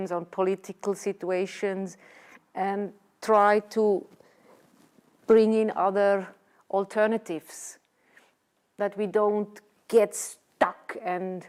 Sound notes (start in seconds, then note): none